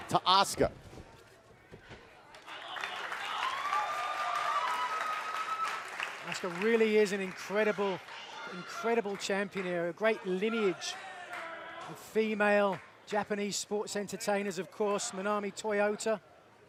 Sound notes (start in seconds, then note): 4.0 cheers and applause